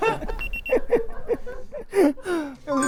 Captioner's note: weeping